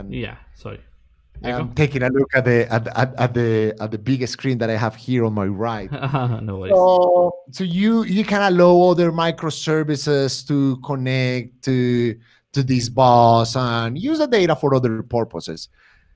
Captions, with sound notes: - Yeah, sorry. - Taking a look at the biggest screen that I have here on my right. - (laughs) No ways. - So, you kinda lower the microservices to connect to these bars and user data for other purposes.